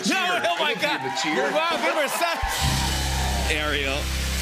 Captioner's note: cheers and applause